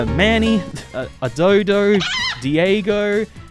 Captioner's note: scoffs